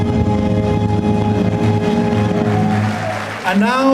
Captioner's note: applause